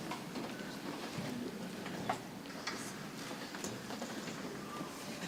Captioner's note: people chattering softly